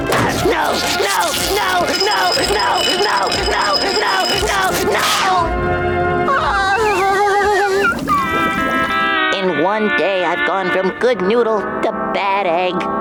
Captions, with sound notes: No, no, no, no, no, no, no, no, no, no! [groaning] In one day, I've gone from Good Noodle to Bad Egg.